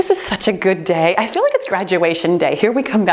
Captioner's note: timer beeps